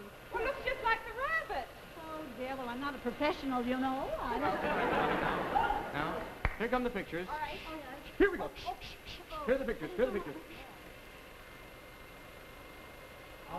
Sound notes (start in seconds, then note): 4.2 audience laughs